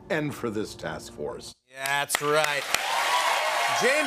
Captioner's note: cheers and applause